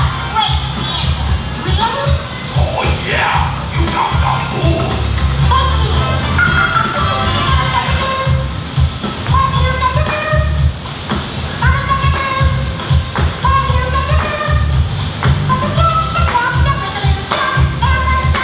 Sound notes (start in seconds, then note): 5.5 laughs